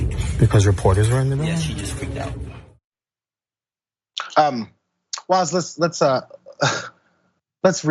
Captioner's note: laugh